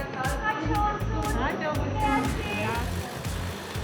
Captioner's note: in Armenian